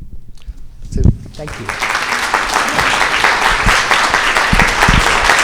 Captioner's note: audience applauding